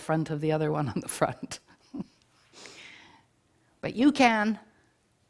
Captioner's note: chuckles